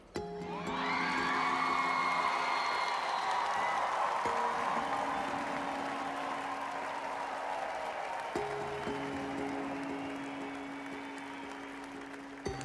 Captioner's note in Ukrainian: оплески